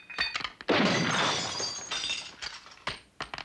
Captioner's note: glass shattering